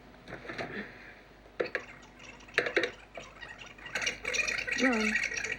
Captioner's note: audio rewinding